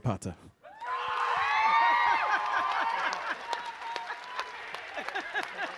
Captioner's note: audience cheering